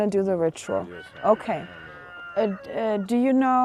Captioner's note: distant rooster crowing